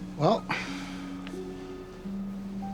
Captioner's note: sighs